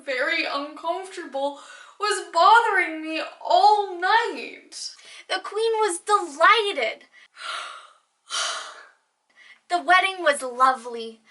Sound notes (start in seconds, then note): 7.2 gasp